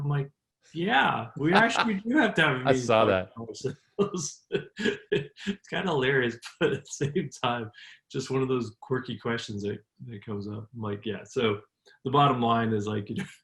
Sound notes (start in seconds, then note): 4.0 laughs